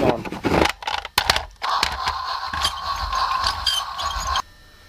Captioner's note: chuffing sound